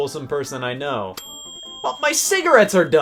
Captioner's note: bell dings